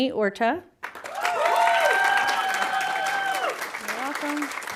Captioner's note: audience applauding